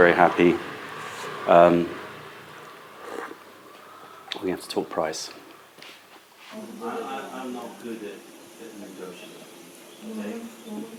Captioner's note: sips tea